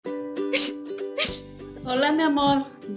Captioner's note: sneezes